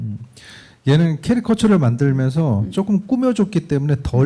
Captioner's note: speaking korean